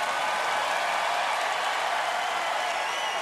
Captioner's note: cheering and applause continue